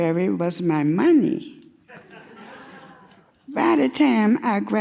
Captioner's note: audience laughing